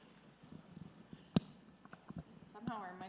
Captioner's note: microphone clicks